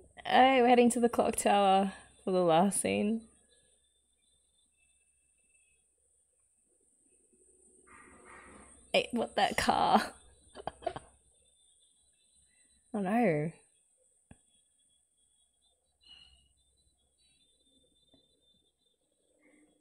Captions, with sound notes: Aye, we're heading to the clock tower, for the last scene? Hey, what - that car! [laughs] Oh no!